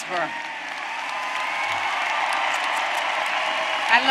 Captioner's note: applause